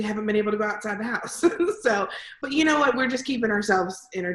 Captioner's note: laughs